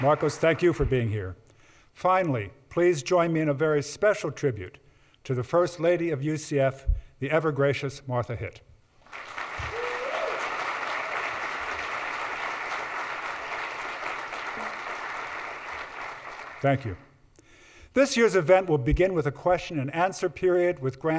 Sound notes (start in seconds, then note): 9.0 audience applauds